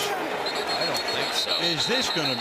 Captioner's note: whistle blows